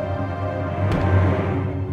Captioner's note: door kicks open